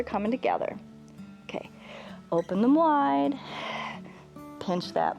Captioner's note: exhales